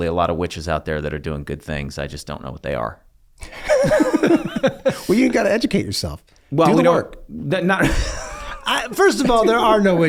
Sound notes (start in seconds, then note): 3.4 Rob and Charlie laugh; 7.8 Rob laughs; 7.8 laughs